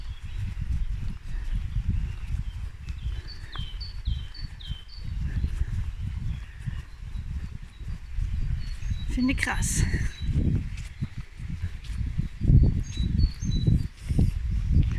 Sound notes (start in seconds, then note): 1.2 birdsong; 12.2 birdsong